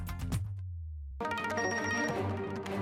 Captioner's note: message beep tone